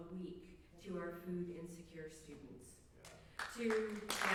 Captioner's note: applause